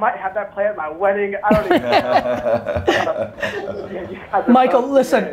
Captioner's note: laugh